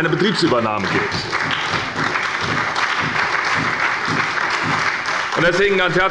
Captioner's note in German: Beifall bei der SPD